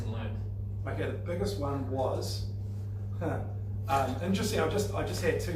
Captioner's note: laughing